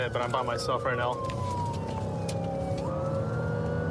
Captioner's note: siren blaring